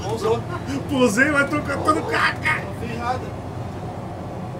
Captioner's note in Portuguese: risos